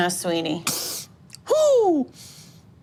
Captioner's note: sniffs